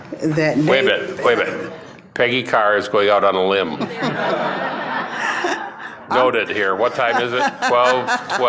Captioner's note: laughter